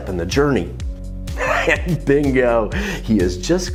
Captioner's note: laughs